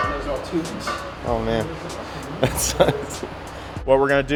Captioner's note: laughs